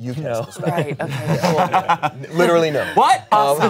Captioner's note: everyone laughs